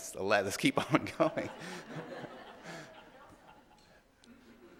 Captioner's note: audience laughing